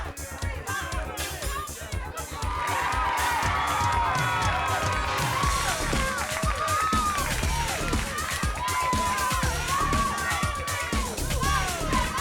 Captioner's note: crowd cheering